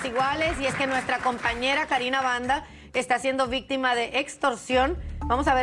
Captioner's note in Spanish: aplausos